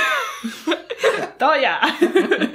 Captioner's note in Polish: śmiech